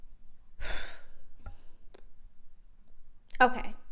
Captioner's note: exhales